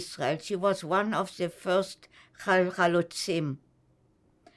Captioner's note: hebrew